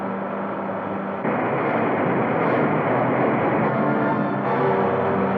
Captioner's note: water roaring; dramatic music